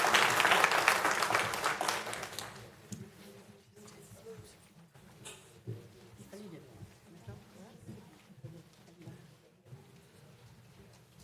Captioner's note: applause